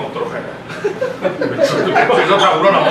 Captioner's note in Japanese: 失笑